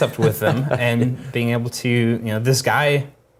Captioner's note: laugh